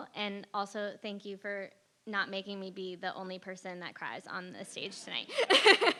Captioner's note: laugh